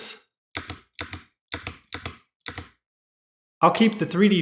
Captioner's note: The sweet sound of MX Cherry Blues being pressed